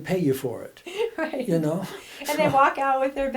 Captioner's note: laughs